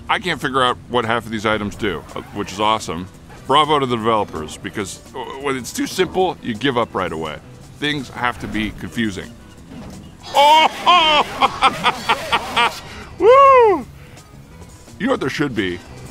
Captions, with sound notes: I can't figure out what half of these items do, which is awesome. Bravo to the developers because when it's too simple, you give up right away. Things have to be confusing. Oh, ho! [laughs] Woo! Y'know what there should be?